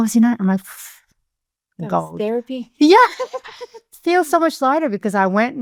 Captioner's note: both laughing